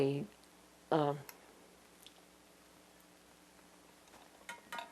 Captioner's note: pauses 6 seconds